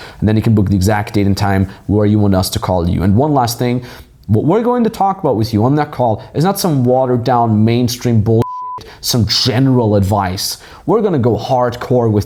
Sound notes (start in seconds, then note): 8.4 beep